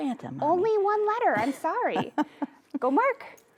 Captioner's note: chuckles